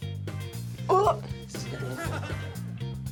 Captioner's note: gagging